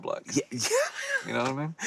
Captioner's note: laughs